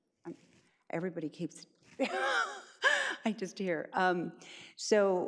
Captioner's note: laughs